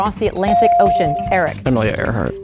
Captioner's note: bell dings